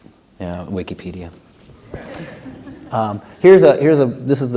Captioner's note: laughter